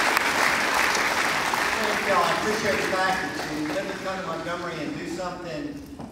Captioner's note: applause